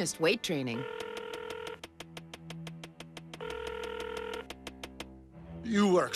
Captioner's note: phone ringing